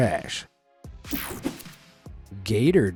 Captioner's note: screen whooshing